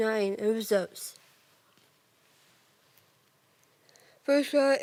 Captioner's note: rustling